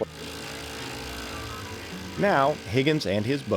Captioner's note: drilling sound